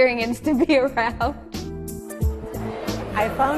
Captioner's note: laughing